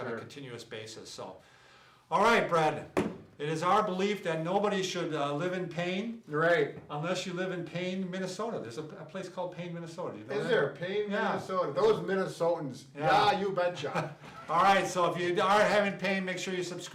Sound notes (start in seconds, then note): 12.8 with an accent; 13.8 chuckles